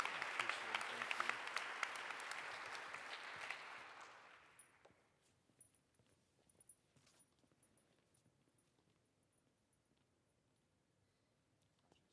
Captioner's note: applause